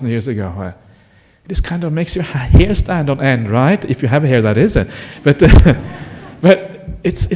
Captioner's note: laughter